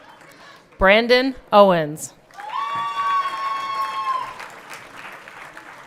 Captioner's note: everyone cheering